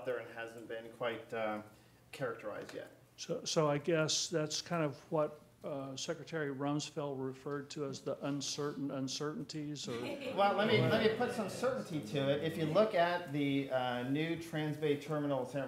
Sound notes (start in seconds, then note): 9.8 laughing; 10.6 murmurs